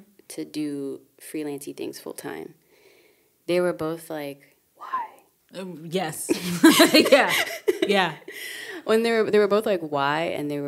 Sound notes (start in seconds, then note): 6.2 giggling